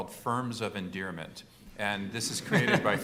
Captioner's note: laughter